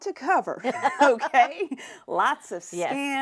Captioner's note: laughing